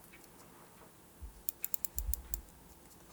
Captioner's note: soft ticking